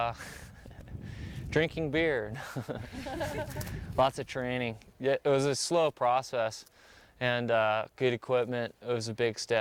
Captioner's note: laugh; laughs